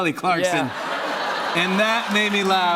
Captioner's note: laughter and applause